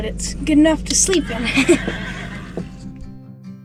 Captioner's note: laughs; horse neigh